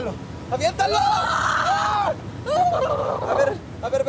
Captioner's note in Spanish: Grito